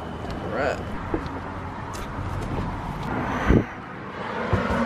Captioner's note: footsteps